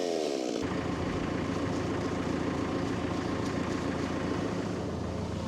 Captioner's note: telehandler whirring